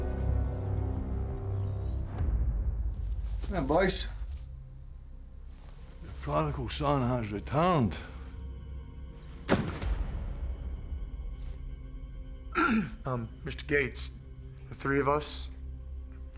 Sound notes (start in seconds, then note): 3.7 scottish accent; 12.5 clears throat